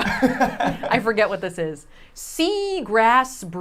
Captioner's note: group laughs